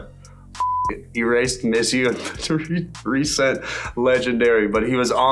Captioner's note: beep